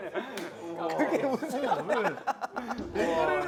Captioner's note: laughter